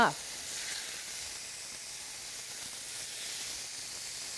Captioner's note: oil sizzling